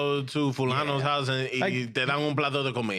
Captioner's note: speaking In Foreign Language